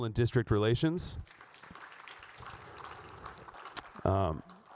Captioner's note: audience applauds